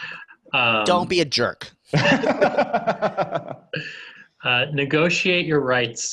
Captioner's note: laughing